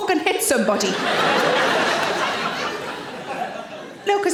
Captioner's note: audience laughing